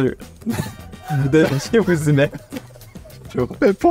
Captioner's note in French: rires